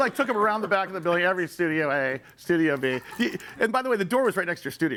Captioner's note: audience laughs